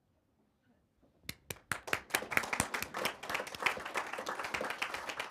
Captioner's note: audience claps